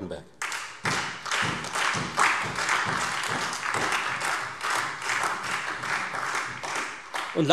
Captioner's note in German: Beifall Freie Demokraten, SPD, AfD und DIE LINKE